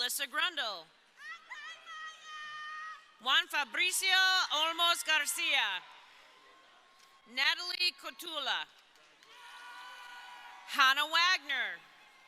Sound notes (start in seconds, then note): 3.3 crowd cheering